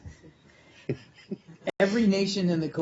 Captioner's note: laughter